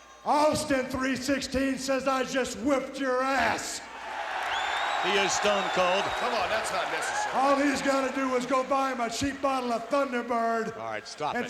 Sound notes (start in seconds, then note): 3.9 crowd cheering